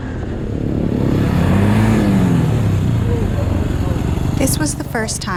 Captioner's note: engine revving